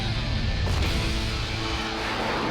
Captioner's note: booming explosion